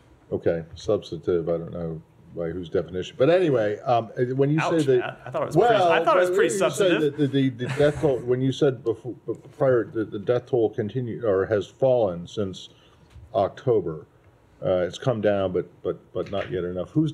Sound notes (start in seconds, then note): 4.8 laughter